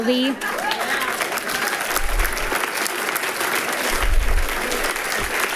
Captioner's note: people giggling and clapping